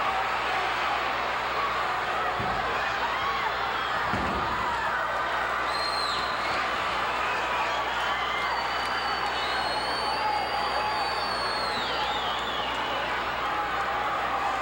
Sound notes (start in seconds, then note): 2.5 hand tapping; 5.2 audience cheering